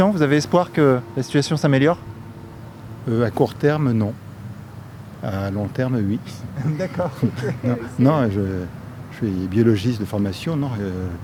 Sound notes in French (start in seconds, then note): 6.6 rires